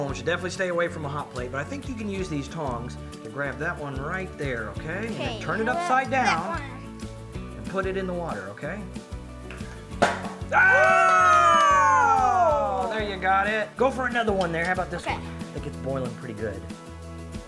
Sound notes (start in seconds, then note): 9.9 pop; 10.5 cheering